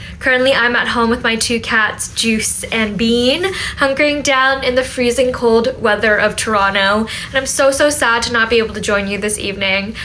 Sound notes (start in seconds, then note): none